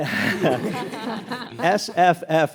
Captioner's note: audience laughs